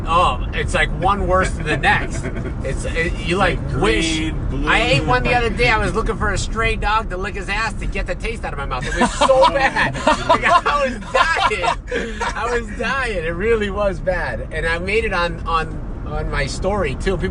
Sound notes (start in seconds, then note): 8.8 laughing